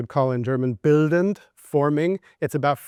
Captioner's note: speaking German